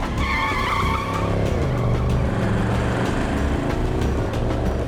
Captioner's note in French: Crissement des pneus